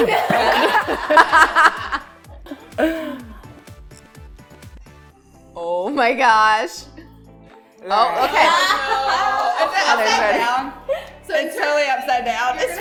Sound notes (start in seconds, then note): 0.0 laughter; 8.1 laughter